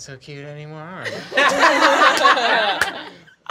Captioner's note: laughing